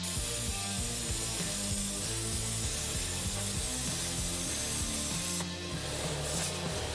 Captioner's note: tool whirring; intense rock music